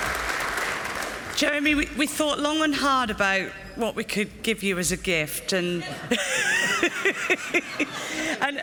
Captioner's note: laughs